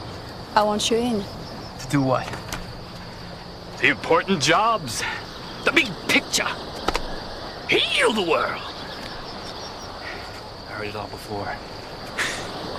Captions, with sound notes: - I want you in. - To do what? (mocking) The important jobs? The big picture! Heal the world! I heard it all before. (scoffs)